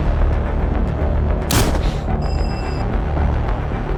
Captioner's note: gunshot